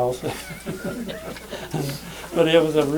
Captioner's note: laughter